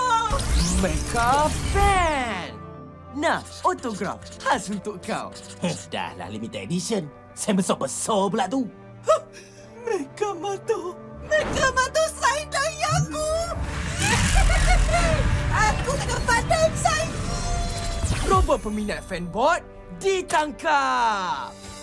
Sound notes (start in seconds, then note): 15.5 squees